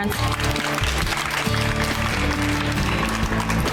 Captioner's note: women applauding